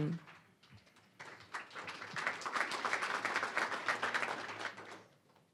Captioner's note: applause